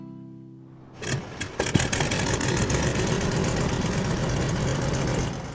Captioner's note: engine chugging